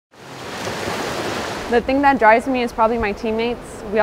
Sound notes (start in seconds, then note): 0.1 water splashing